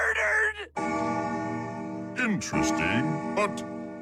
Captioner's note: clock chiming